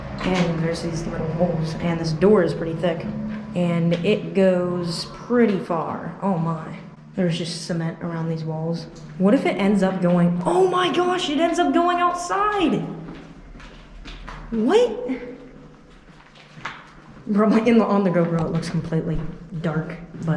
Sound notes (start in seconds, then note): 13.0 footsteps echoing rapidly; 15.5 footsteps echoing